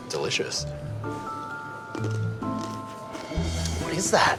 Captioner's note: crunch! crunch!